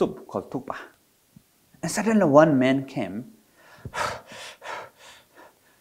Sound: pants

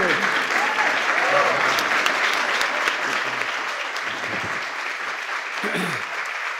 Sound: applause

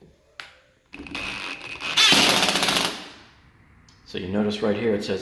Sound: drill whirs

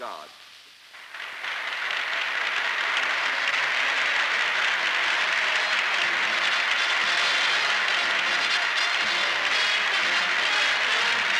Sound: applause

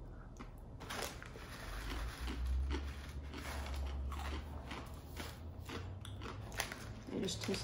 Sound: crunchy noises

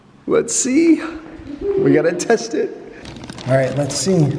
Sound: gasps

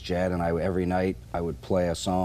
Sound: none

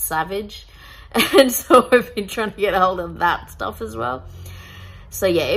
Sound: laughing humourlessly

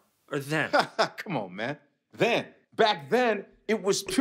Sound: laughs

